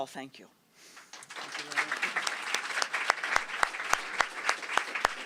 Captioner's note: applause